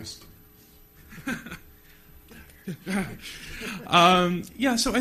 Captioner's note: chuckle